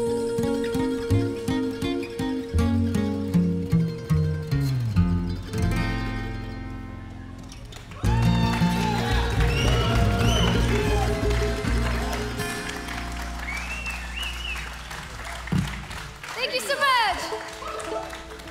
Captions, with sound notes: (crowd cheering) Thank you so much.